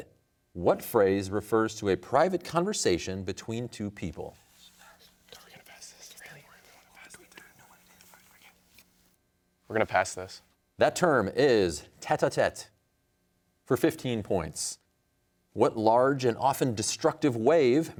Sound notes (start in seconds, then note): 5.2 whispers; 7.7 team whispering